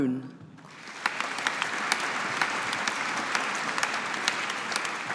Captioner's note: audience applauding